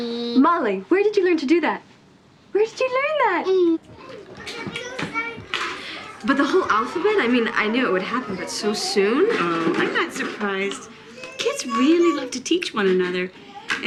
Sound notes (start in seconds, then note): 4.2 kids talking indistinctly